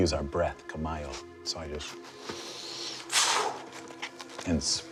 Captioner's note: speaking foreign language; inhales, exhales